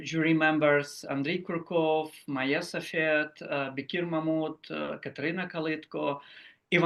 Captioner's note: speaks foreign language